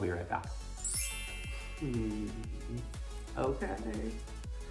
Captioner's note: chimes ringing